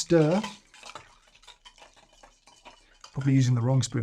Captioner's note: ice clinking